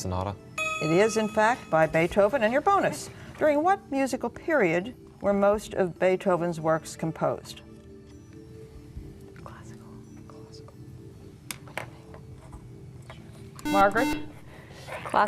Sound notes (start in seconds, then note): 8.6 whispering; 13.6 buzzer